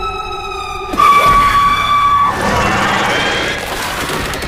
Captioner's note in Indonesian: berteriak